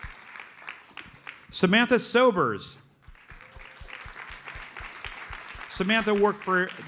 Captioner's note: audience applauds